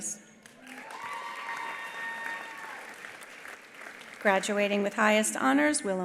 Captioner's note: attendees applauding; attendees cheering